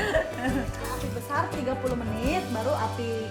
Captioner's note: laugh